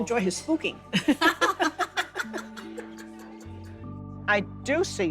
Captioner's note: both laughing